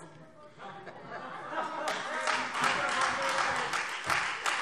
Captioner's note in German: Beifall Freie Demokraten